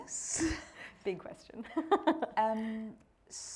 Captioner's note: laughing